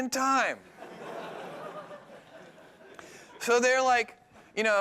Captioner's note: laughing